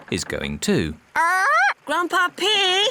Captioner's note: polly squawks; oinks